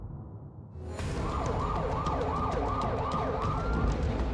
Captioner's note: sirens blaring